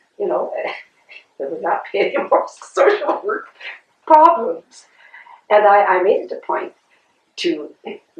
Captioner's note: laughter